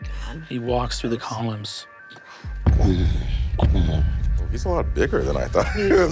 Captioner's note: mimics heavy footsteps